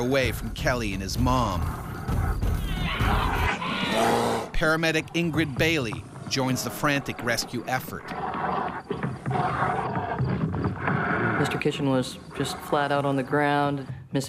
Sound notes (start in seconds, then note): 4.9 voiceover; 9.1 bear growling